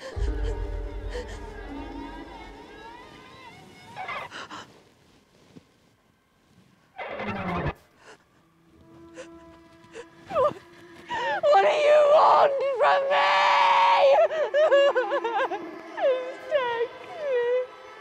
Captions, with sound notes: (dark eerie music) (Brigit panting) - What do you want from me? (Brigit sobbing) Just take me.